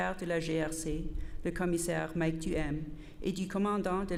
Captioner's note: repeated in French